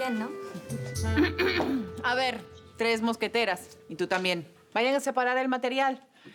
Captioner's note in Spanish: Carraspea